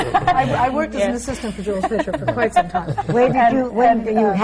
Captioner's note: laughter